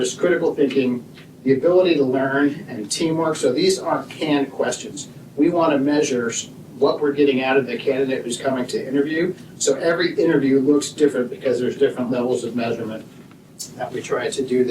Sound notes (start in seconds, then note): none